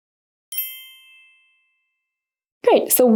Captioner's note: bells chiming